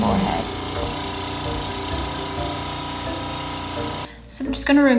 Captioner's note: machine whirring